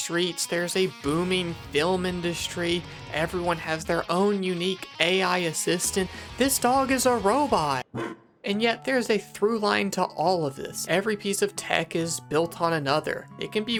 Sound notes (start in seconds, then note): 7.9 woof